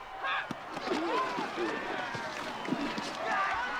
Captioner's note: grunting